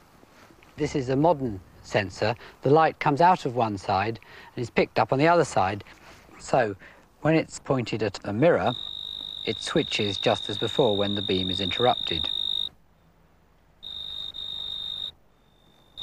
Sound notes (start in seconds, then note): 12.2 beeping noise; 12.6 silence